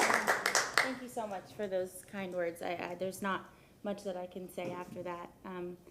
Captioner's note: applause